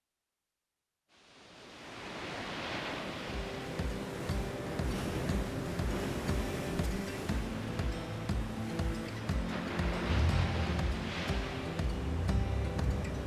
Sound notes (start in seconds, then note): 6.5 ocean waves crashing; 8.6 slow music